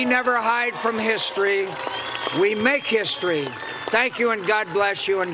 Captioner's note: cheers and applause